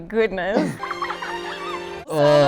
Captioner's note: stock children laughter